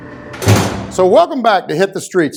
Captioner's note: bars slamming